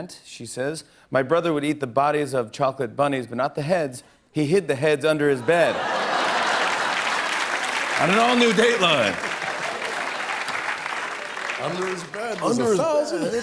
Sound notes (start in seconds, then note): 5.4 laughter and applause